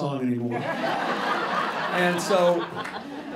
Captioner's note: laughter